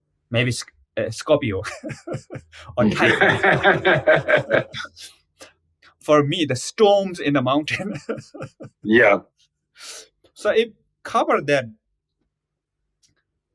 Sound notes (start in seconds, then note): 1.6 laughs; 7.6 laughs